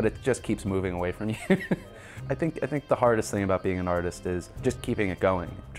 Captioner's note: laughs